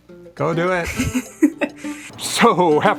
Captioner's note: laughs